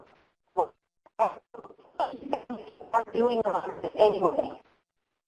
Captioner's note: distorted audio